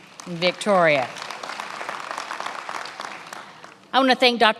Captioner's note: attendees applauding